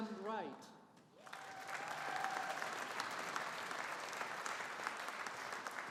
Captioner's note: audience applauding